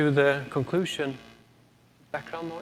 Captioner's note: audio equipment static